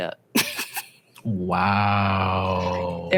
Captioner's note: laughs